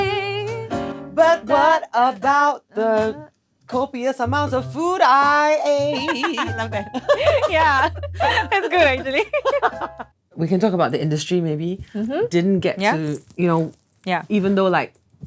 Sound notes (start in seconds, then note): 0.0 sings; 5.8 laughs; 9.5 both laugh